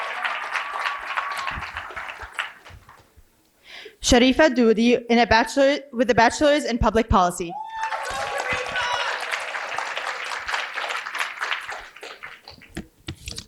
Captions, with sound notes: (cheering and applause) Sheriff Hadule with a bachelor's in public policy. (applause)